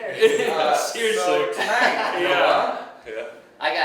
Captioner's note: laughing